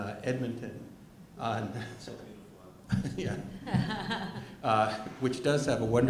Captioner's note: laughter